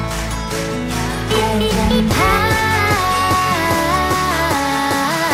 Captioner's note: ambient bike sounds